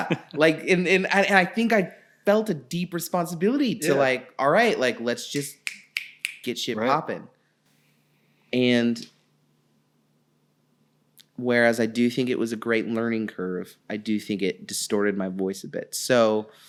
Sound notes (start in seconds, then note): 0.0 laughing; 5.3 fingers snapping